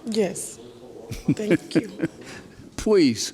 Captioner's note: laughing